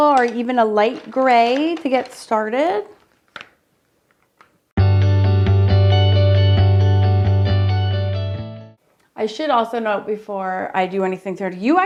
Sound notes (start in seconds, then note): 3.2 gentle music; 3.2 pencil clanks